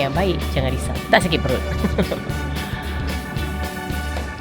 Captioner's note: laugh